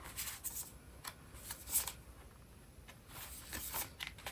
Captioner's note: drawing cards